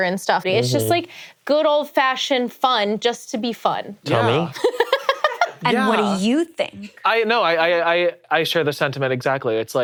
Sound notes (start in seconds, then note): 4.5 laughs